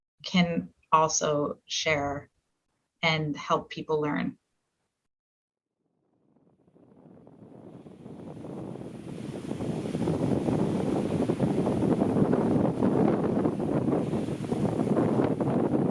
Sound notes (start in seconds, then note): 9.5 wind blowing; 12.6 waves crashing